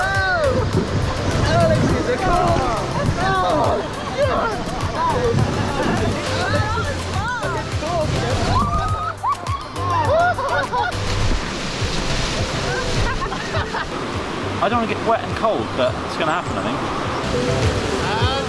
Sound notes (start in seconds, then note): 0.1 group exclaims and groans; 8.5 woman screams; 10.4 laughter